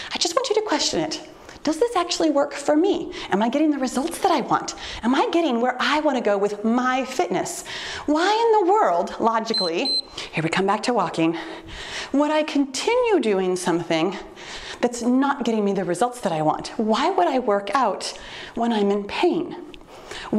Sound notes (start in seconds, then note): 9.4 timer beeps